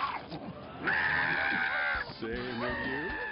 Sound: screaming

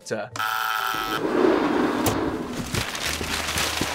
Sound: phone buzzes; whooshing; money rustling

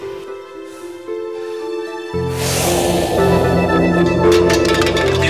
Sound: wind whooshes; puffs, blows

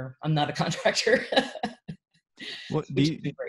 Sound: laughs

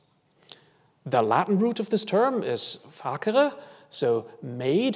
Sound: foreign language

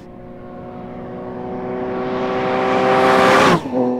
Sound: engine revs

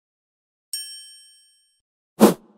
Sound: bell dinging; wind rushing

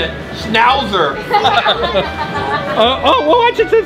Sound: laughs

